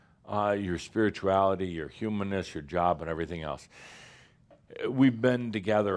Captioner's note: none